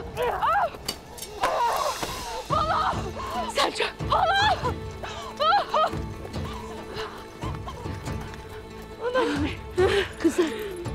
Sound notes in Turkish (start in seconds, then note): 4.0 Ağlama sesi